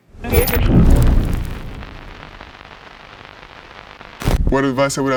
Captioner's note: static crackling